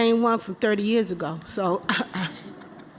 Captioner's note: laughter